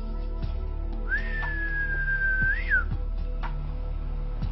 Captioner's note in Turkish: Islık çalar